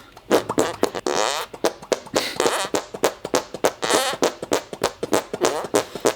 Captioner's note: squeaking